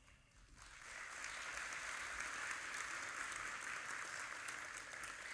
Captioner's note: audience applauding